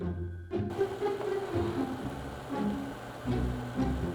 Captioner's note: simmering